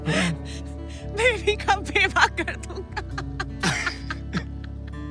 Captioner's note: Laughing; Laughing; Laughs